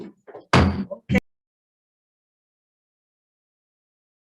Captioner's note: chair sounds gavel